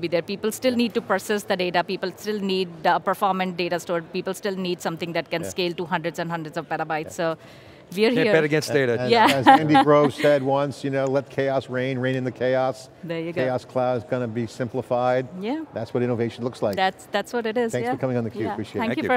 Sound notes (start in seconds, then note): 9.1 laughs